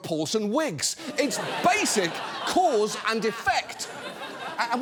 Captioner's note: studio audience laughs